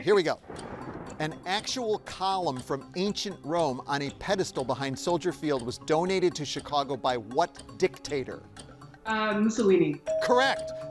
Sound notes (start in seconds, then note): 10.0 bell dinging